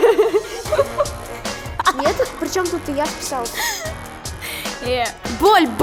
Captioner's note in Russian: смех; смех